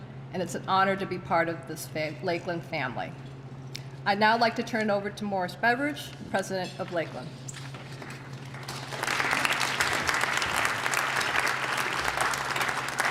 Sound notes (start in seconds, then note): 8.4 applause